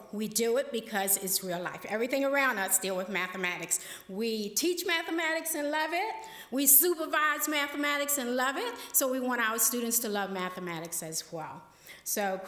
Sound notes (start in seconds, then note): none